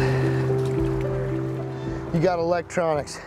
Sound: water splashing; heavy breathing puffing

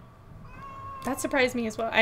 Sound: meows

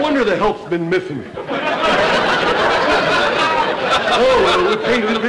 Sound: audience laughter

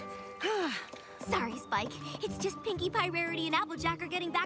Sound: sighs

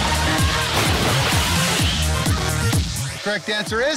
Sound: upbeat techno music; water splashing

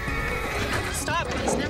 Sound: neigh

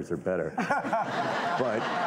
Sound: audience laughing

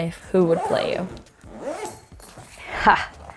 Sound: zipper zips

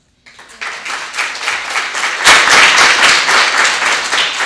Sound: audience applauding

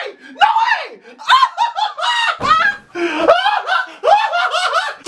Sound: hysterical laughing

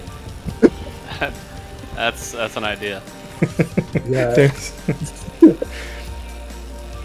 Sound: laugh

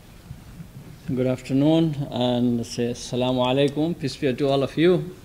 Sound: speaks in a foreign language

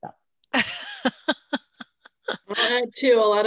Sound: laughing

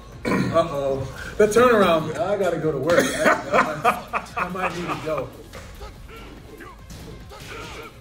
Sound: laugh

